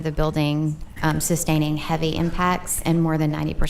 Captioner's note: whispering